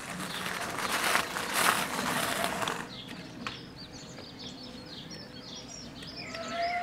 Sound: sound of ebike

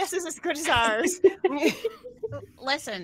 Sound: laughter

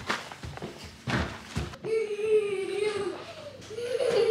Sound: boots tapping; baby laughs

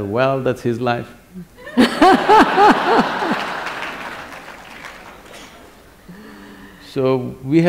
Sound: laughter/Applause

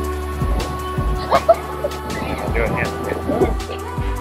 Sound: laughing

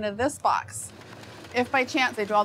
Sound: machine sorting papers

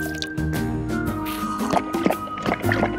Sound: Becca glugging

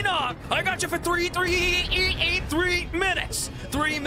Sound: Spider-Man Voice; Bonesaw YTP Voice; Bonesaw Voice

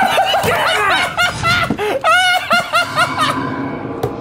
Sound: laughing

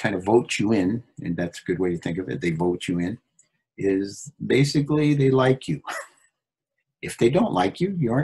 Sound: laughs

